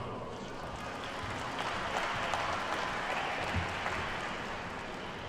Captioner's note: attendees clap